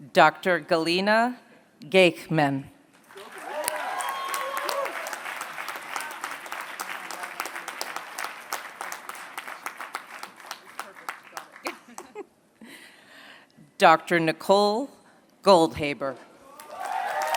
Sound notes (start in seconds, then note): 3.0 applause